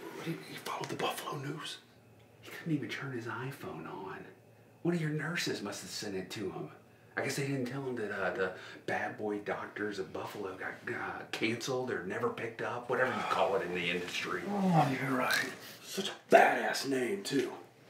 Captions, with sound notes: - What..he followed the Buffalo News? - He couldn't even turn his iPhone on. One of your nurses must have sent it to him. I guess they didn't tell him that, uh, the Bad Boy Doctors of Buffalo got canceled or never picked up, whatever you call it in the industry. (grunting) - Ugh, you're right. Such a bad ass name, too.